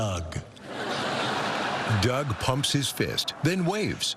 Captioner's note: laughter